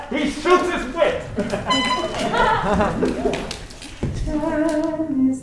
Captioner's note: horn tooting